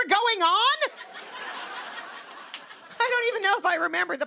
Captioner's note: laughter